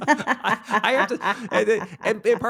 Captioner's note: both laughing